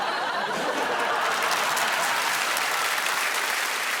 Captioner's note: audience laughing